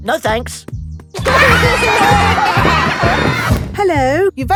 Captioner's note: laughter